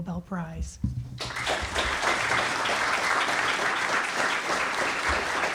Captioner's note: audience applauds